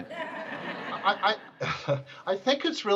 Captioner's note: audience laughter